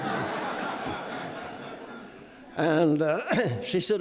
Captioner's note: audience laughing